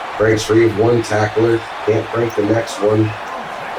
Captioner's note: crowd Noises